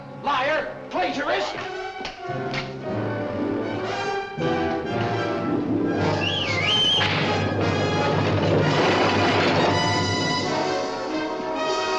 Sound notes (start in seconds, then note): 6.0 whistling to wagon